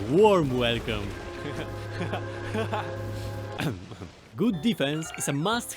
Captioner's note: happy noises